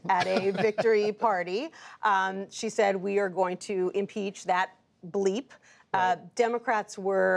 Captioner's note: laughter